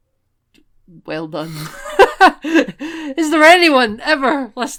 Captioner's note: laughter